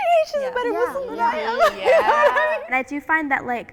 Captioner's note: laughs